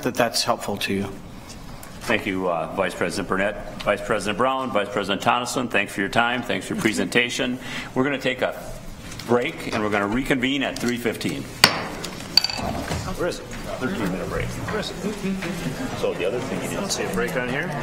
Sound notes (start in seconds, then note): 11.6 gavel striking sound block; 13.6 chattering